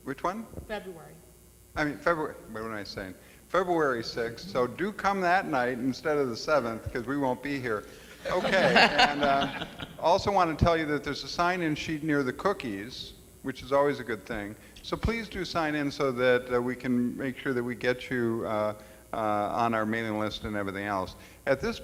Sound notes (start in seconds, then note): 8.2 all laugh